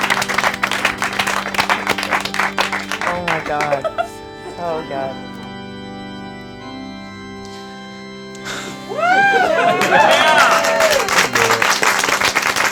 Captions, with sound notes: (melancholic organ music) Oh my god, oh god. (sighs) - Whoo! - Yeah! (applauding)